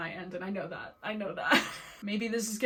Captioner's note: laughing